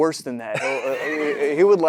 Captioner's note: Matthew laughs